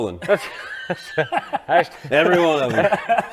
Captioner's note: all laughing